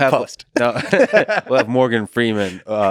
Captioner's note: Lex laughs; Tim laughs